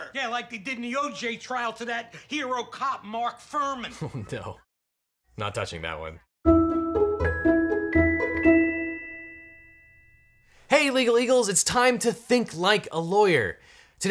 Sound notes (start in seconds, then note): 3.9 chuckles; 6.4 upbeat music